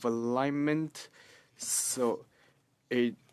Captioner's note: speaking French